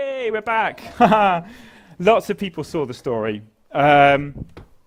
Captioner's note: laugh